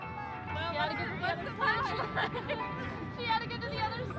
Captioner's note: laughing